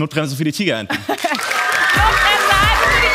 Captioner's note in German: Jubel